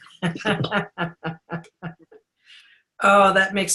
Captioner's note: laughing